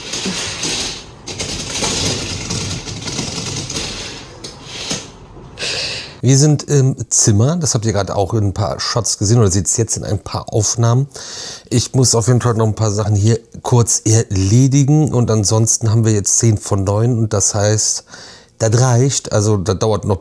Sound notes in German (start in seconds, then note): 1.1 schnauben